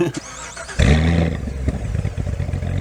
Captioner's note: laughs; engine starts; engine revs